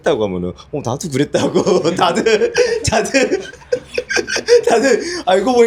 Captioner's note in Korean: 웃음